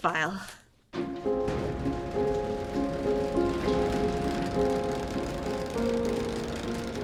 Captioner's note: lively music; fan whirring